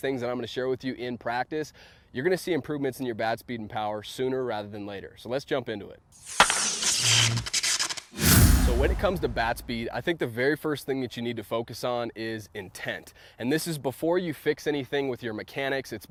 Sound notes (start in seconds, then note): 6.2 static crackling; 6.2 baseball bat cracking